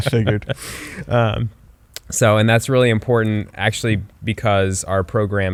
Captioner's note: laughs